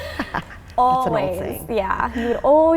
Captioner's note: both laughing